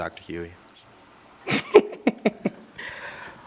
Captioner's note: laughs